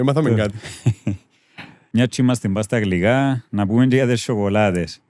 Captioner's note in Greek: γέλιο